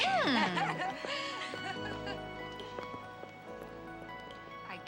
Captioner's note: ladies laughing